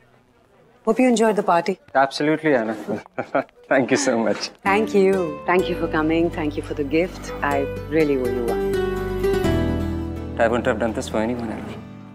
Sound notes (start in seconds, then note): 2.8 laughs